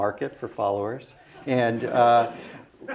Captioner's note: laugh